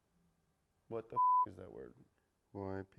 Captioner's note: beep